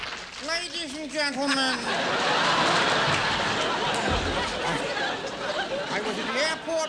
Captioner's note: comical voice